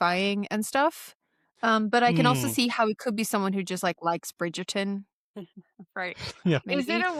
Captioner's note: laughter